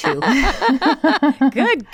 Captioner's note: laughing